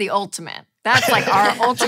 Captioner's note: laughing